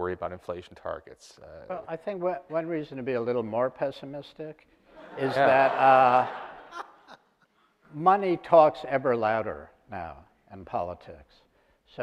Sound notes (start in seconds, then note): 5.0 audience laughter